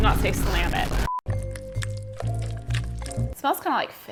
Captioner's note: beep